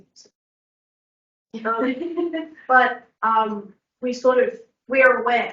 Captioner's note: laughs